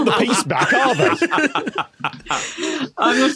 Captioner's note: laughter subsides